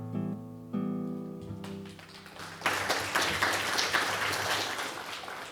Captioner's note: applause